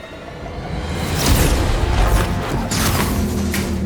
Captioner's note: loud zapping